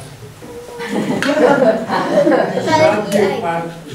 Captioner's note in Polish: śmiechy z sali